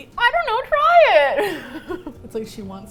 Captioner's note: laughs